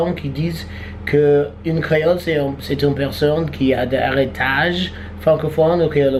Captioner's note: Latin